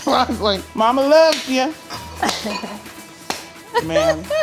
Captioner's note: both laughing; hand smacking; laughing